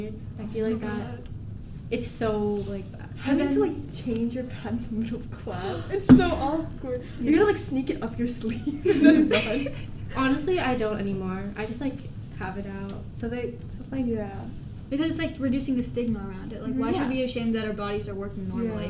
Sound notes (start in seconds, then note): 8.5 giggles